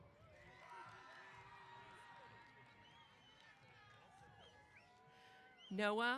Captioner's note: cheers